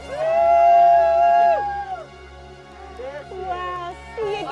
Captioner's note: all cheering